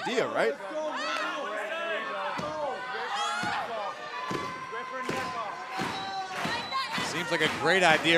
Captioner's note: crowd cheering